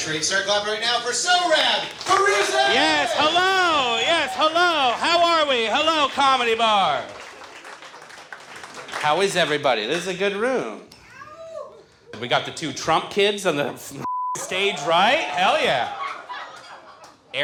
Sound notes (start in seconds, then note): 7.1 audience applauding; 14.0 beep; 16.1 audience laughs